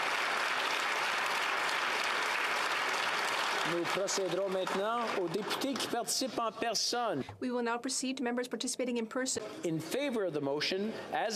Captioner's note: applause